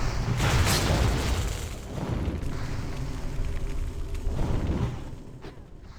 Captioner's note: gunfire